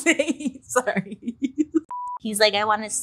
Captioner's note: laughs